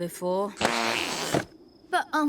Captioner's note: deflating